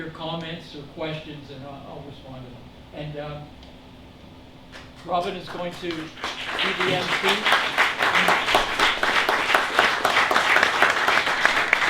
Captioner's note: applause